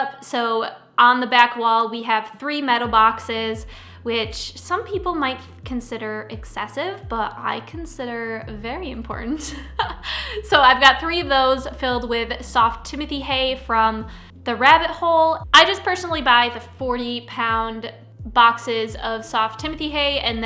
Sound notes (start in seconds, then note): 9.4 laughs